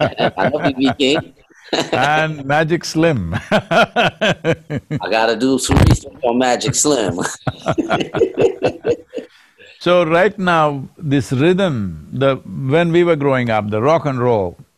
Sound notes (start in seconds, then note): 3.3 laughs; 6.7 both laugh